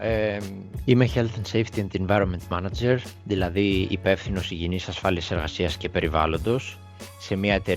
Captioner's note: translates in Greek